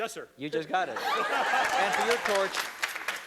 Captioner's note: laughter